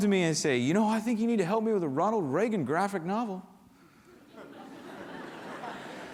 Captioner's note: laughter